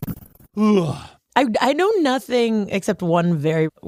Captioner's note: yawns